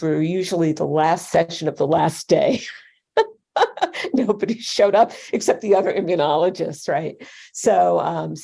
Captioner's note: laughter